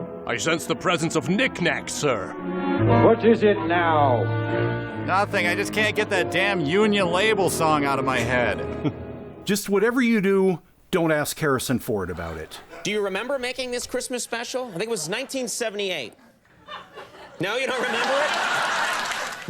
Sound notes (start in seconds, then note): 16.5 laughter intensifies; 16.6 scattered laughter